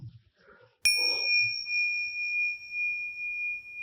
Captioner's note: bell ringing